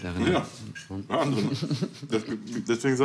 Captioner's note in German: Lachen